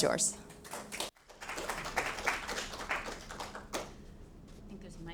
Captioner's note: audience applauding